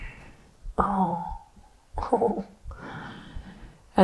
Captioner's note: laughs